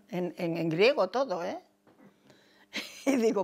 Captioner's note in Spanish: ríe